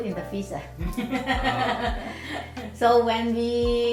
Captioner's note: laughs